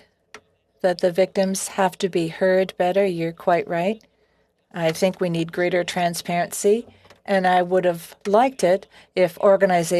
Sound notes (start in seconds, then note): 4.9 speaking French